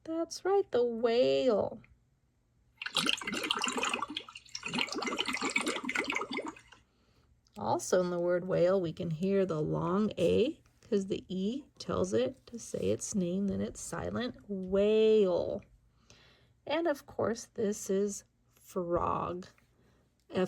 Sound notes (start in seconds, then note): 2.8 water churns